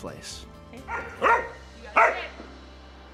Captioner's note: dog barking